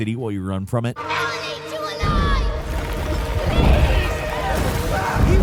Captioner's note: characters shouting